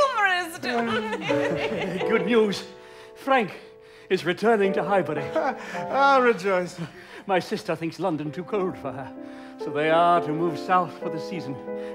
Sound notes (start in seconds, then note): 0.6 all laugh; 0.6 he laughs